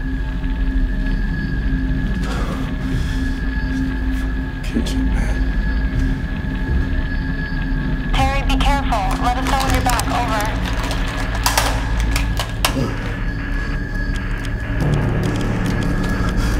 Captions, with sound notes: - Fuckin' kitchen, man. - Terry, be careful. Let us know when you're back, over. (walkie thudding)